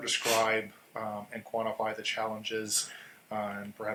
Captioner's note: coughing